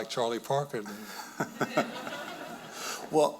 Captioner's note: audience laughing